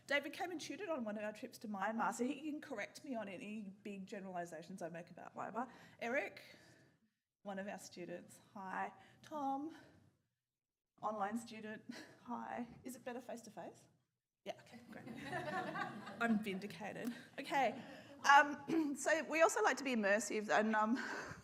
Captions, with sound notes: David came and tutored on of our trips to Myanmar, so he can correct me any big generalisations I make about Myanmar. Eric? One of our students, hi. Tom. Online student, hi. Is it better face to face? Yeah, okay, great. (audience laughs) I'm vindicated. Okay, so we also like to be immersive and um,